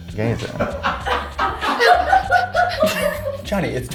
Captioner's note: crew laughing